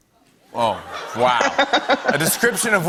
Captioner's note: laughter